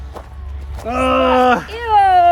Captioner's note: grunts